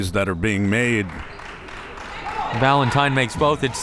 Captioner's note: crowd members clapping